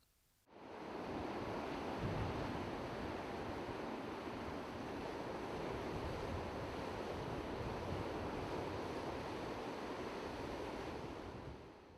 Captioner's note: ocean sounds